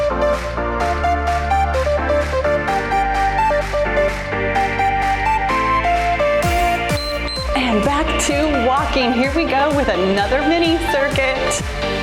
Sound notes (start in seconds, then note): 6.5 timer beeps; 11.8 cheerful music